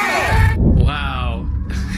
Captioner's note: chanting